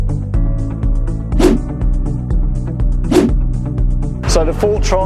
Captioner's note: graphic whooshing